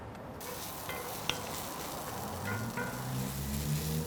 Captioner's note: onions sizzling